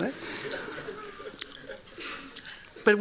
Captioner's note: laughing